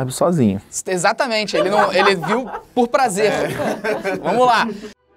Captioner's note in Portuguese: risadas